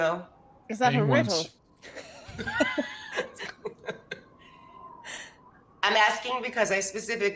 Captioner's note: Silas speaks faintly